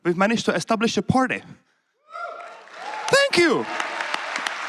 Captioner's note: applause